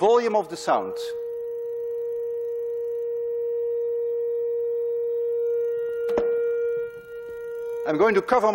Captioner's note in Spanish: Tono se hace más fuerte